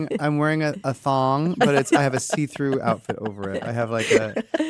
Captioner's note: laugh